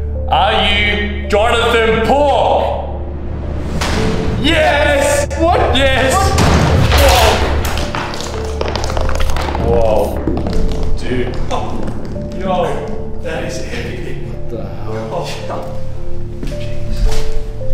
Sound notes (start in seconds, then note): 6.2 door slams open; 7.6 billiard ball rolls